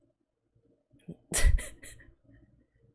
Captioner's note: laughs